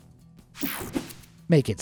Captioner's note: screen buzzes and whooshes